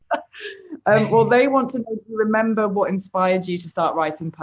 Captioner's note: laughs